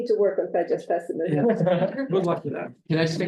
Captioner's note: all laugh